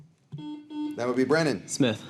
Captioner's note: buzzer dings